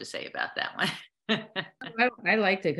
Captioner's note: laughter